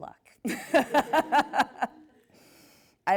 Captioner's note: laughs